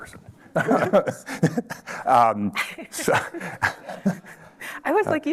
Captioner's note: laughter